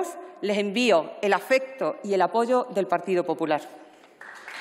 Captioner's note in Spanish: Aplausos